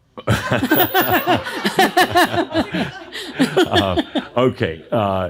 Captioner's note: chuckle